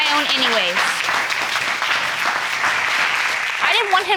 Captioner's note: audience clapping